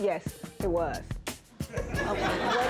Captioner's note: audience laughing